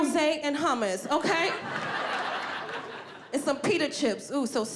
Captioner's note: audience laughing